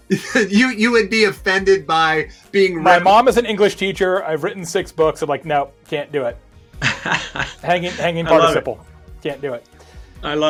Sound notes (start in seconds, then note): 6.8 laughing